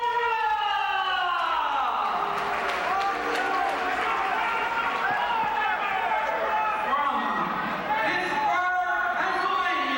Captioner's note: crowd cheering